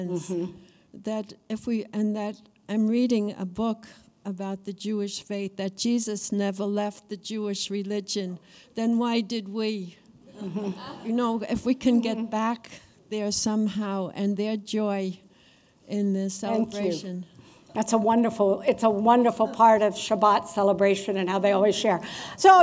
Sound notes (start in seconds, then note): 10.4 laughter